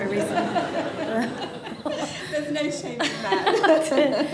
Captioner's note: laughter